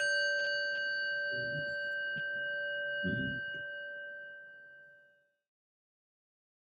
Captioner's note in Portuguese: O som do sino toca uma vez